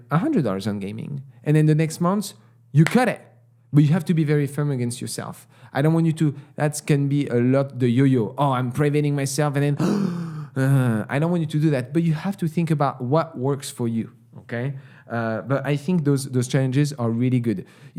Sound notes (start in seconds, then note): 9.8 gasp